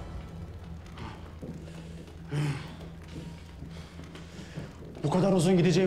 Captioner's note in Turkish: Homurtu sesleri